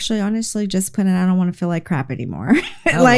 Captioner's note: laughs